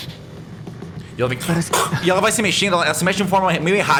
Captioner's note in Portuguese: Grunhido